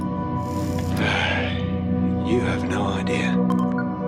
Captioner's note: sigh